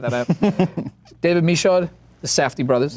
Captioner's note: laughs